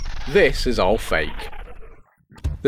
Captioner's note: rewind Sound